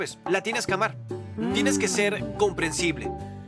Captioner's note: female Mmm